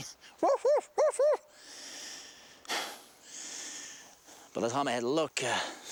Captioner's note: Gary imitates dog barking